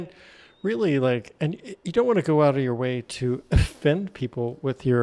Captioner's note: chuckles